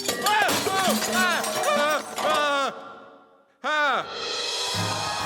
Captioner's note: glass breaking; shouting; cheering